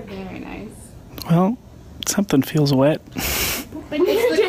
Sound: laughs

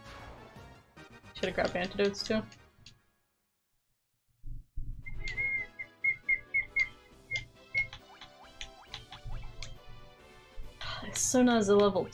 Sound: whistle attempts

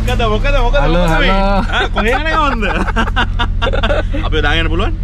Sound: laughing

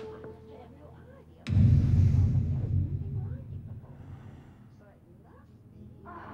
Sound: woman muttering; ominous music

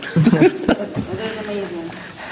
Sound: people chuckling

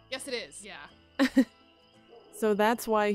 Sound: laughs

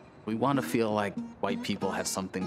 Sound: voiceover

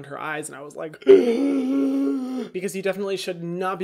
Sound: groans

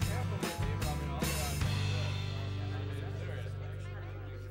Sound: crowd chattering

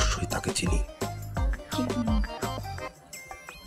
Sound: whispers

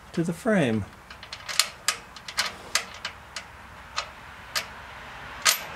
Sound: metallic noise

